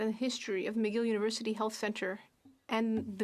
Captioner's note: speaking French